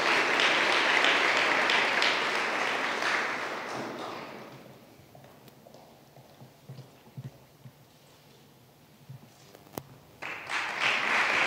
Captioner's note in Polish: oklaski